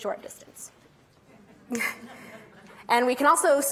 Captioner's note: audience laughing